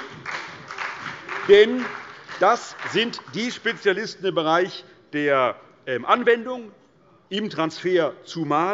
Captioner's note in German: Beifall bei der CDU und dem BÜNDNIS 90/DIE GRÜNEN